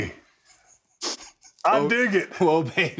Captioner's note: Cody chuckles